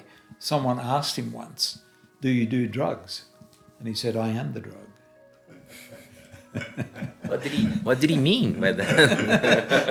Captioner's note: laughter